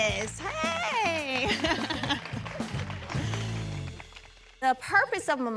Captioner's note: chuckles